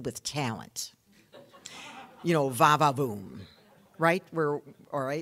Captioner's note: audience laughing